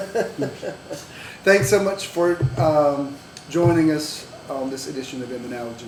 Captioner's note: laughter